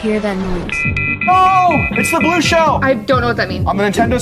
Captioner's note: alarm blaring